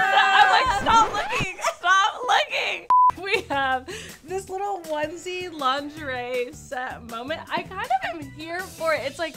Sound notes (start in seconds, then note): 2.9 screen beeps